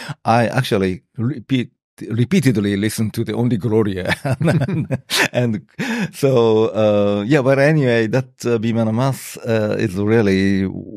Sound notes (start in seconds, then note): 4.0 laughter